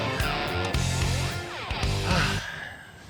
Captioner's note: sighs